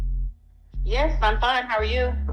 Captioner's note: on phone